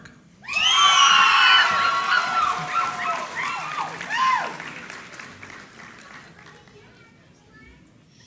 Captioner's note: applause